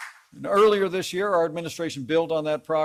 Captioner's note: applause